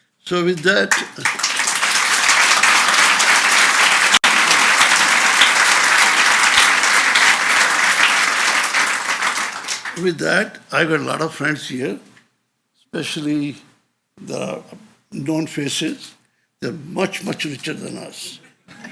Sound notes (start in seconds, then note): 1.2 audience applauds